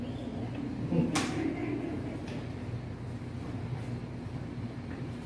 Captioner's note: laughter